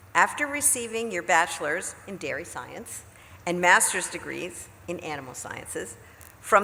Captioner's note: none